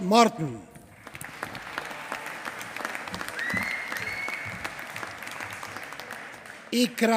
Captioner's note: applause